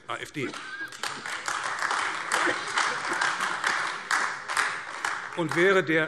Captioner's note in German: Beifall AfD